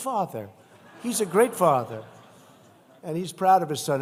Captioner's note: laughter